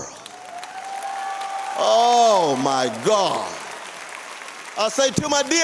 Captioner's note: applause